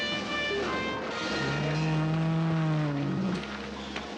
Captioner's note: bull bellows